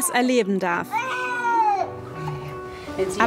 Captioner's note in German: schreit